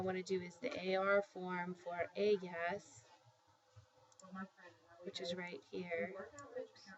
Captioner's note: spanish